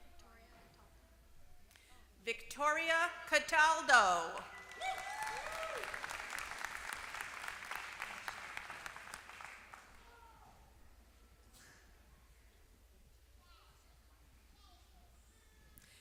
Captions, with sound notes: Victoria Cataldo. [APPLAUSE]